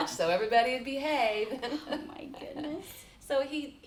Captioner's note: chuckles